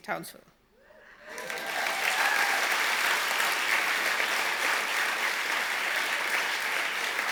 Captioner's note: audience applause